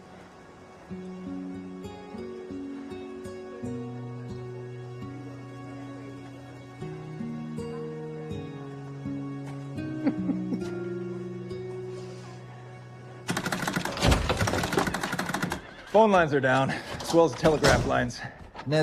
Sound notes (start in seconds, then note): 9.8 chuckles; 13.5 jiggling sounds